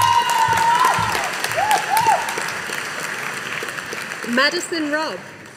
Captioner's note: audience applauding